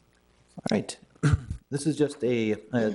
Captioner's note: clears throat